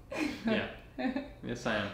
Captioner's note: chuckles